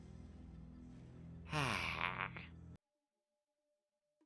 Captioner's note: sound of relief